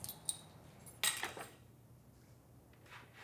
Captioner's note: keys clatter